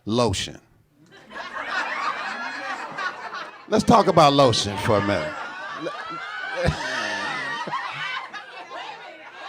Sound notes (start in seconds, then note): 1.4 audience laughing; 4.7 laughing